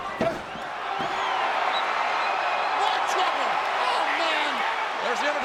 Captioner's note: crowd cheering